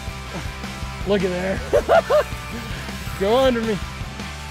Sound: laughing

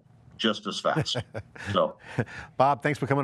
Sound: laughing

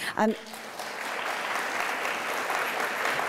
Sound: applause

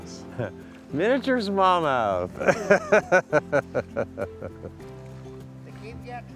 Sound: laughs

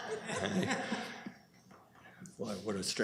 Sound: laughter

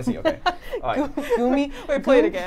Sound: laughs

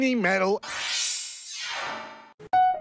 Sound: teleportation noises

